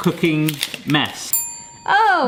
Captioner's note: bell dings